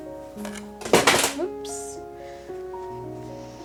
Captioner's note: ruler crashes to the ground